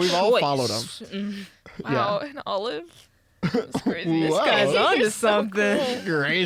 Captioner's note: laughs